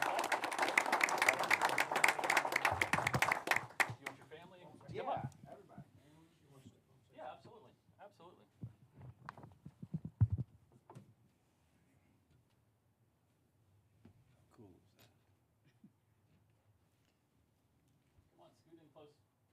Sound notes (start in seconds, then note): 2.2 applause